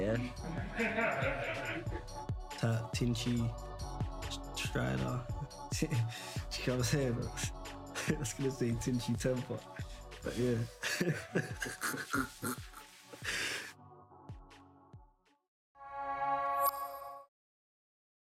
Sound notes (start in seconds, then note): 0.4 laughing; 5.3 chuckling; 10.8 laughing